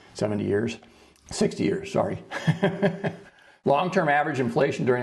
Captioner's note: laughs